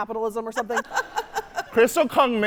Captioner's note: laughing